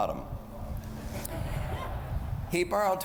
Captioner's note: laughter